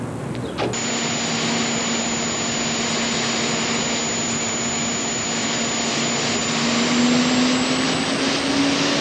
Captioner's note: jet engine running